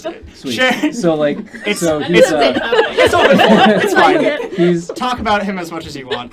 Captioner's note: group laughter